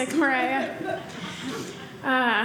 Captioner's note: audience laughing